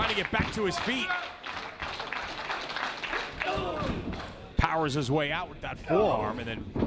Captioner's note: applause